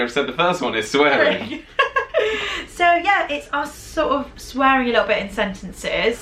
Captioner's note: laughing